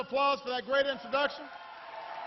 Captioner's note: applause